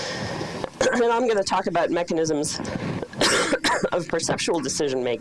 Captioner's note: coughing